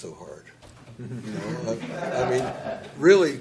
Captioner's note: laughter